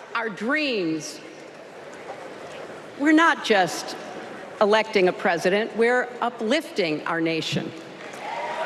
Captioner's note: applause